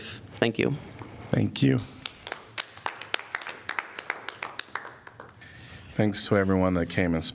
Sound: applause

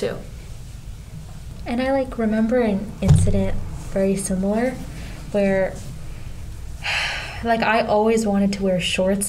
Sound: sigh

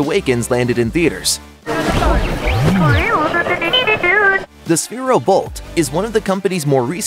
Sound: speaking BB-8 language

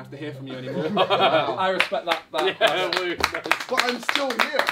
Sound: all clapping

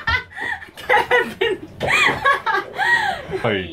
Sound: laughs

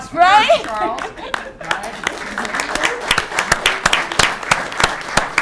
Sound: laughs; audience clapping

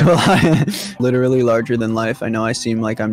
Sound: laughs

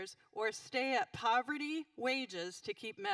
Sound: none

